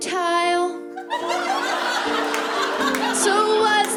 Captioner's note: laughter